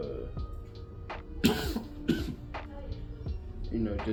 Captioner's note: coughs